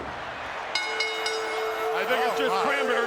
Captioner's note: bell rings; peaceful music